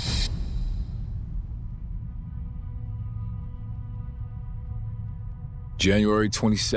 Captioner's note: boom echoes; tense brooding music